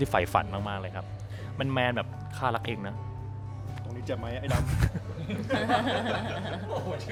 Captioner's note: talking in Thai old language style